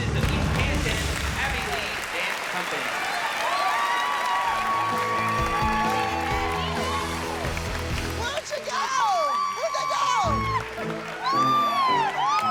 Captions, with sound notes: of East Canton," Abby Lee Dance Company. [cheers and applause] Where'd you go? Where'd they go?